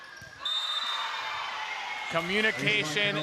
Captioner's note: whistle